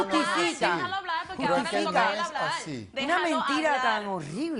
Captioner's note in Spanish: Hablan al unísono